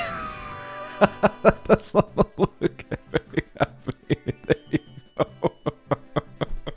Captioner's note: laughing